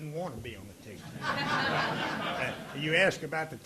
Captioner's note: audience laughing